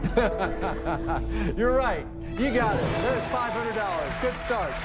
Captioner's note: laughs